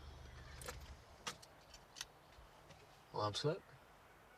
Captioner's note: birds chirping